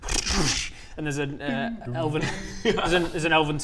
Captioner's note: bing-dong-ding!